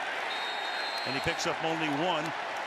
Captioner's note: whistle